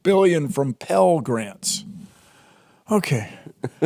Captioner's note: Jordan laughs